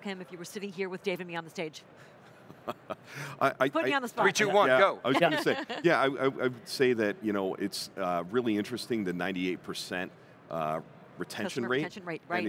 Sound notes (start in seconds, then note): 2.4 chuckling